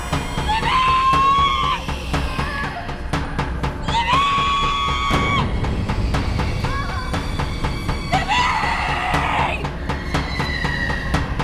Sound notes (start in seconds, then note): 2.1 Libby crying